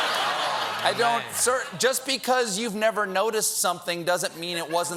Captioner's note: laughter